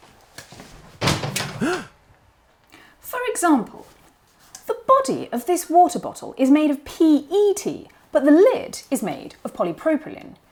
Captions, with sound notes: [gasps] For example, the body of this water bottle is made of PET but the lid is made of polypropylene.